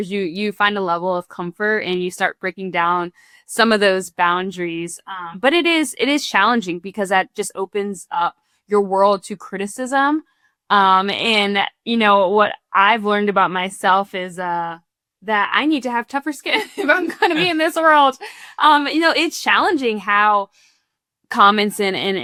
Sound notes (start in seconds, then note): 16.6 chuckles